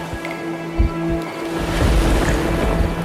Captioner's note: crickets chirping; dreamy music; waves whooshing